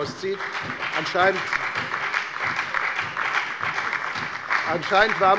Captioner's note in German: Lebhafter Beifall bei der FDP, der SPD und der LINKEN